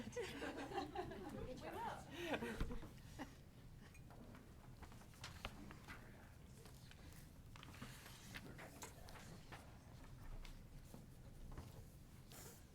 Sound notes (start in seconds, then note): 0.0 all laughing; 2.1 people chattering